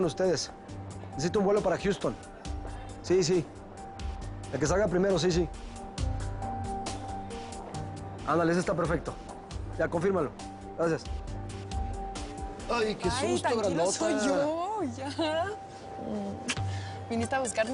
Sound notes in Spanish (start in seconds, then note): none